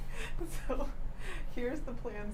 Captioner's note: laughs